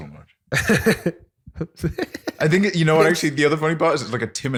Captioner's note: laughter